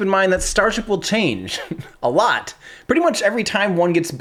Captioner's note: chuckles